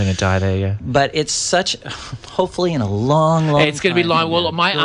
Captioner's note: laughs